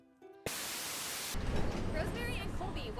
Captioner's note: static buzzes